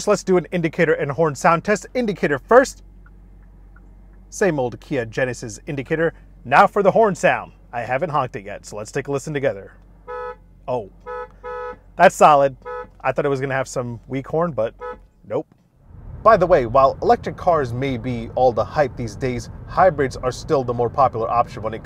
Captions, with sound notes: let's do an indicator and horn sound test, indicator first. (turn signal sound) Same old Kia Genesis indicator. Now for the horn sound, I haven't honked it yet so let's take a listen together. (horn sounds) Oh, that's solid. I thought it was gonna have some weak horn, but nope. By the way, while electric cars may be all the hype these days, hybrids are still the more popular option when